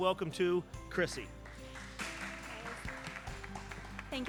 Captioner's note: crowd applauds